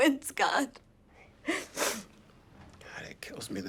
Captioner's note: sobs